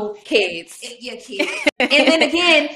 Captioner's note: chuckling